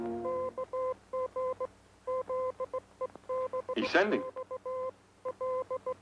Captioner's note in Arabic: صافرة إلكترونية